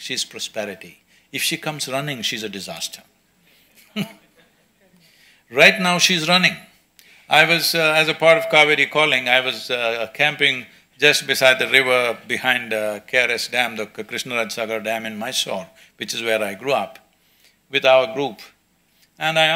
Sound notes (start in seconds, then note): 3.8 laughs